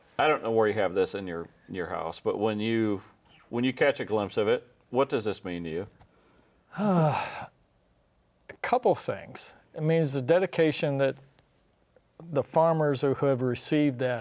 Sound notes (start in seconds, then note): 6.7 sighs